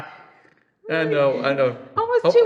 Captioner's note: laughs